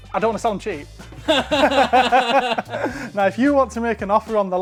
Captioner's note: both laugh